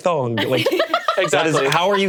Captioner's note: laughing